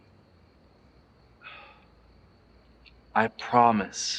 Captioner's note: sighs